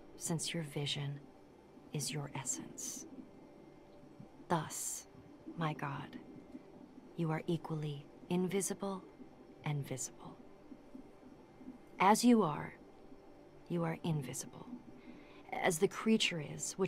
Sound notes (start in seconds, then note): none